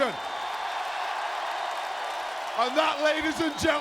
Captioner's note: crowd cheering